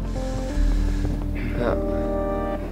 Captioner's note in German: seufzend